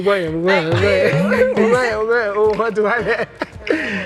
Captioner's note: laughs